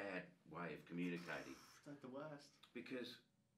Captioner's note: raspberry sound